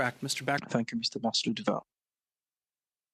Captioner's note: speaking French